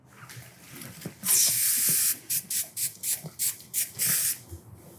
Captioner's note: hair spray fizzing